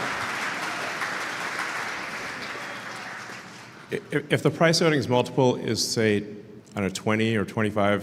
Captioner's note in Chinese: Applause; 掌声